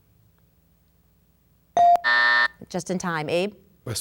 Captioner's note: bell dinging; buzzer sounding